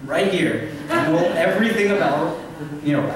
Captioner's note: laughter